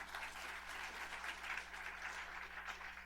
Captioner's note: applause